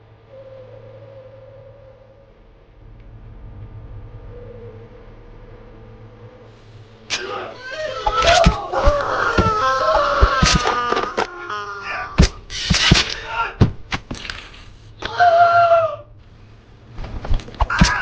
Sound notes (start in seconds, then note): 7.1 guy screaming; 8.1 knife slicing; 10.6 blood squelching; 15.0 Thug screaming